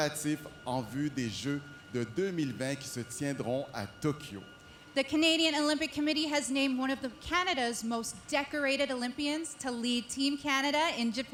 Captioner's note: speaking French